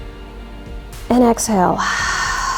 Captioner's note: exhales